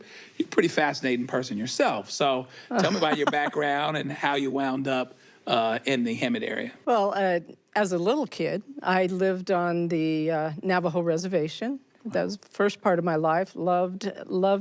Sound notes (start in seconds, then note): 2.8 laughs